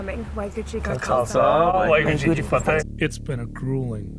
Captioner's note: speaking foreign language